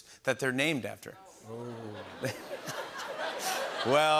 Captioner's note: laughter